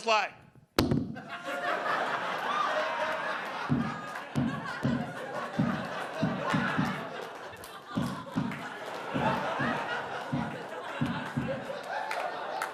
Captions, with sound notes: He was just like. (thudding) (audience laughing) (thudding continues) (audience laughing)